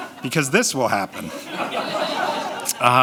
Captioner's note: audience laughter